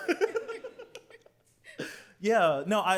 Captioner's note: laughs